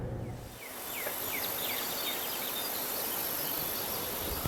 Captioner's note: birds chirping